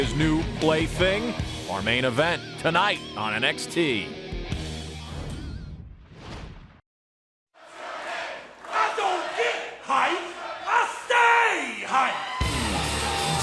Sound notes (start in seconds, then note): 5.0 crowd cheering